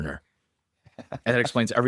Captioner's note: laughs